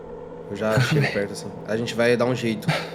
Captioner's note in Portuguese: ofegante